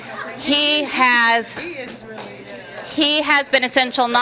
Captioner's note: audience murmuring assent